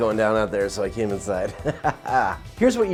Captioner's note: laughs